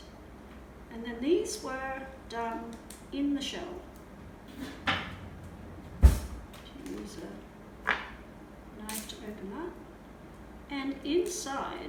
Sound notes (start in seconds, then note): 5.8 kitchen draw shutting